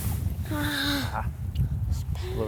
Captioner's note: gasps